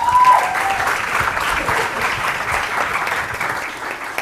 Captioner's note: applause